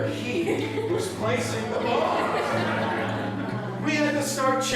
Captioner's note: laughter